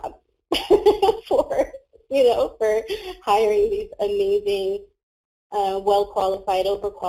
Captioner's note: laughs